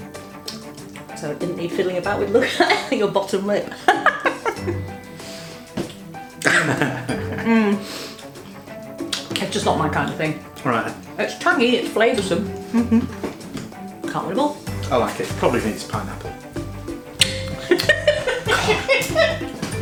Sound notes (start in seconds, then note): 3.7 cackle; 6.4 laughs; 17.2 laughs